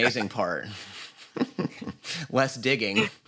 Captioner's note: chuckling